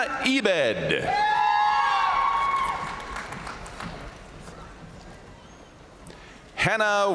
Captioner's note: crowd cheering; crowd applauding